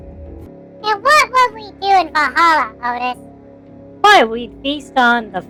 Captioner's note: still laughing